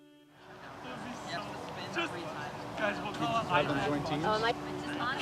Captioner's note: talking and laughing